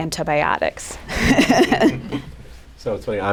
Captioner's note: laughter